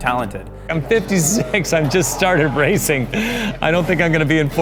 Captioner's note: chuckles